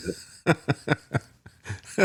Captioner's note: laughing